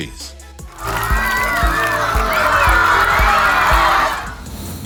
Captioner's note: screaming kids. enthusiatic